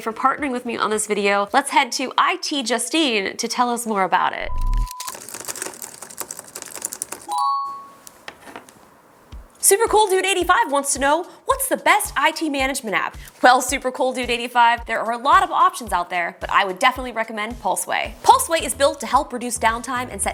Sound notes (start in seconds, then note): 5.5 phone alert beeps; 6.5 keyboard clicks